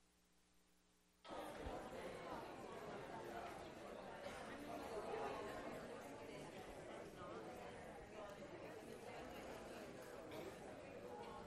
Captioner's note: classroom chatter